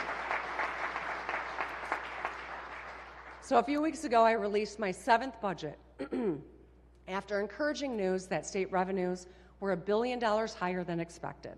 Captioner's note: applause